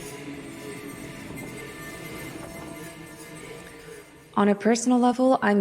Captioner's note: wind blows